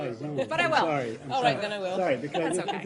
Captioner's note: laughter